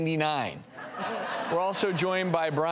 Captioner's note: laughing